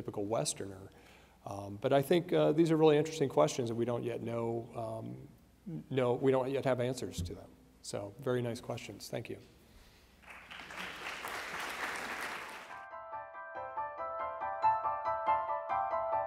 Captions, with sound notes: than a typical westerner, but I think these are really interesting questions that we don't yet have answers to them, so very nice questions, thank you. (applause) (pensive piano music)